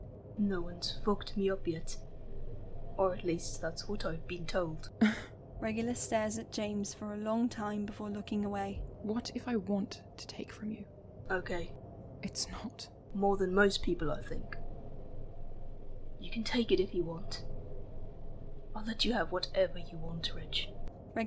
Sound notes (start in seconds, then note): 5.0 Regulus lets out a huff that’s almost a laugh